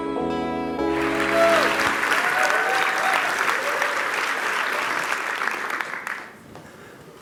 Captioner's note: applause